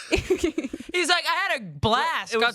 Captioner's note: laugh